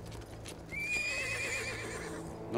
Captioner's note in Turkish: At kişneme sesi